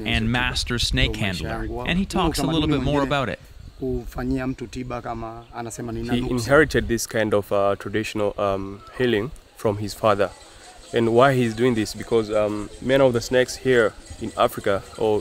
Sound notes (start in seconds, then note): 3.8 speaks in foreign language